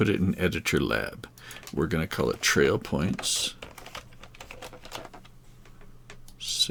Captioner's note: keyboard clicking